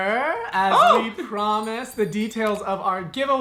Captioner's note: bell rings